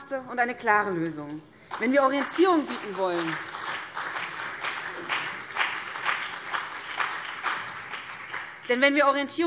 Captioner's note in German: Beifall BÜNDNIS 90/DIE GRÜNEN